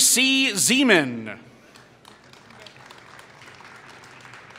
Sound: applause

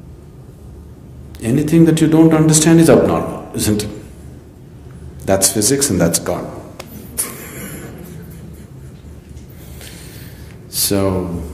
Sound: laughs

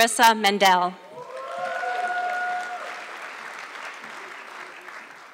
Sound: audience clapping

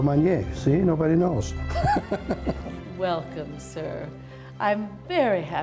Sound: laughs

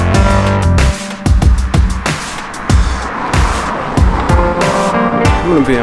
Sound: car driving

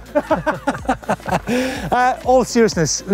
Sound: laughs

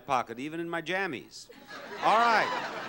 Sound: crowd laughs

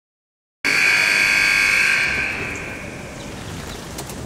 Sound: alarm blaring

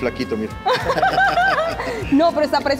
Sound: laugh

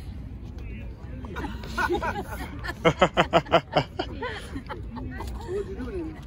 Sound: laughing

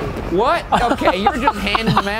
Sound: laughing

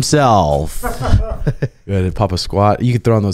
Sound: both laugh

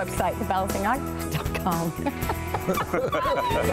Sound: laughter

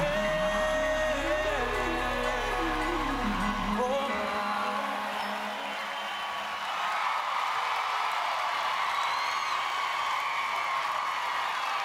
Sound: applause

